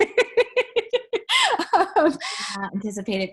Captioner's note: laughs